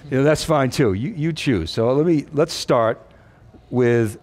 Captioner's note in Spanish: none